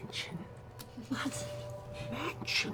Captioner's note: whispers